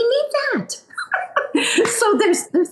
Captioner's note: laughs